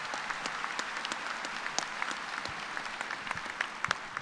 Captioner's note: applause